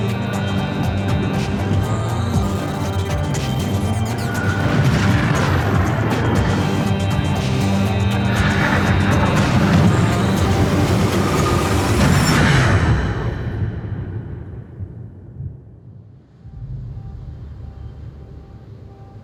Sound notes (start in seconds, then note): 2.7 distortions in the audio; 4.5 thunder rumbles in time to music; 12.0 music fades out